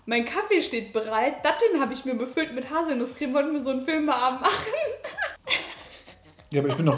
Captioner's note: laughing